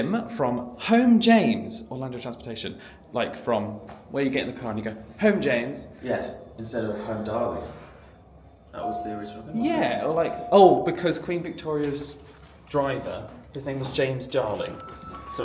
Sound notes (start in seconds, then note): 8.8 elevator dings